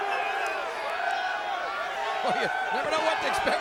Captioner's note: crowd cheering